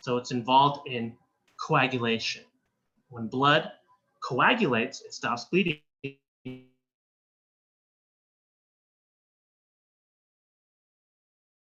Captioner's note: missing Audio